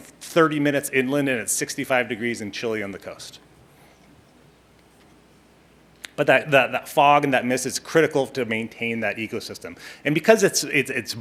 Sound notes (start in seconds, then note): none